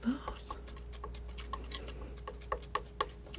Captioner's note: scratching